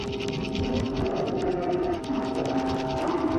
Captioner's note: animal snarls